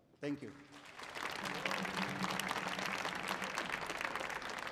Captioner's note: audience applauding